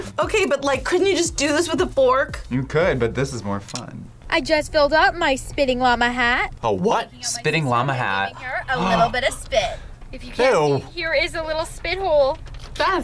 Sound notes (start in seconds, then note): 9.5 gasps